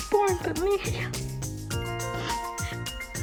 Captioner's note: sobbing